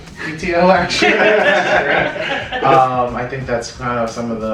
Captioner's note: laughter